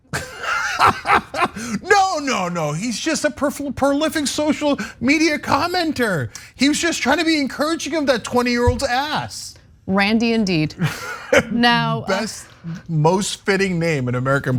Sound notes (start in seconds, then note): 0.1 laugh; 10.8 laugh